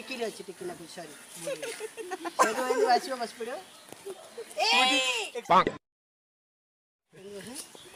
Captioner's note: Shout